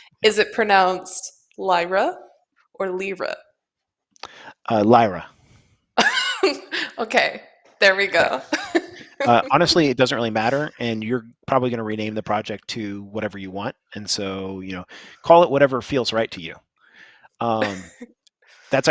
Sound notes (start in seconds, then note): 5.8 laughs